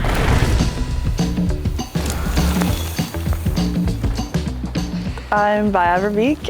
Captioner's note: bikes whizzing; upbeat rhythmic music; bikes whizzing